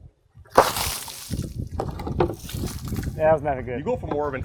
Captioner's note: water splashing